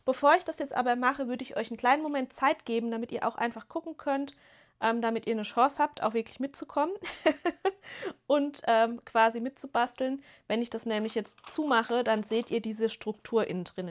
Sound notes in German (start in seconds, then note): 7.0 gelächter